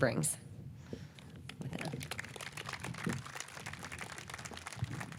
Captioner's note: audience clapping